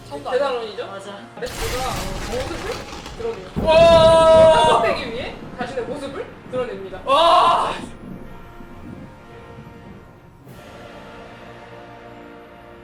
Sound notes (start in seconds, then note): 3.6 screaming